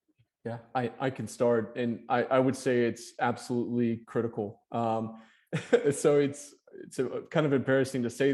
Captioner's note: chuckling